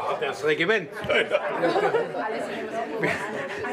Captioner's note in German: Lachen, Stimmengewirr